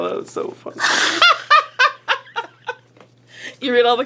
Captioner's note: laughing